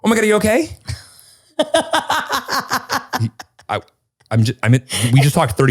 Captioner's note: laughs